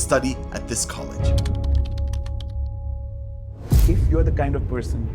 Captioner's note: keyboard clacks